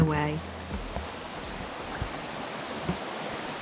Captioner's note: waterfall